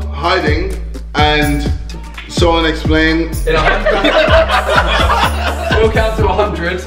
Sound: laughing

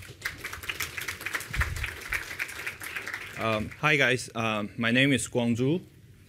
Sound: applause

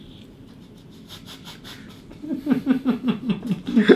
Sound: laughing

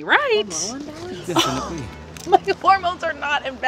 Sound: Kinsley scoffing

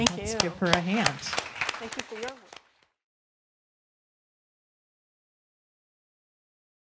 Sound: audience applauding

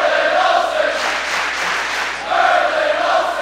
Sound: clapping

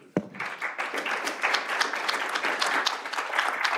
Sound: applause

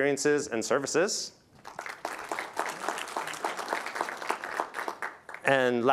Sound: applause

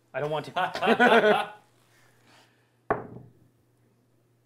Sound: laughing

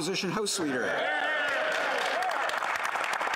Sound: applause

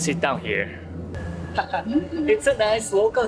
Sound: laugh

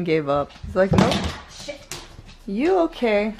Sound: loud bang

